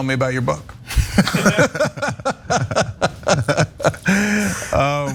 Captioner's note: laugh